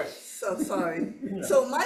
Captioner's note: attendee chuckling